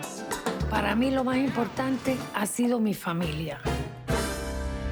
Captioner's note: speaks Spanish